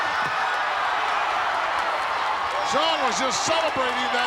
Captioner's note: audience cheering